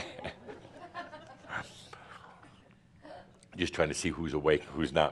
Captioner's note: chuckles